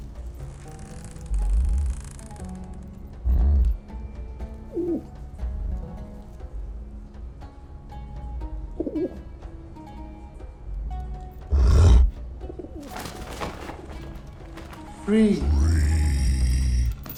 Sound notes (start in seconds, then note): 4.8 coos; 11.4 growls